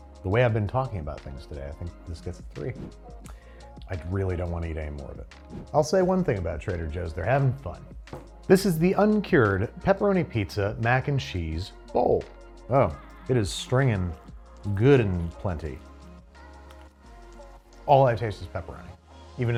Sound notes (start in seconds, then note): 2.7 air whooshes